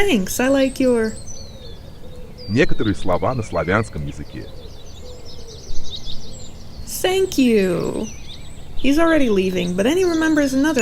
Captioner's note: some russian words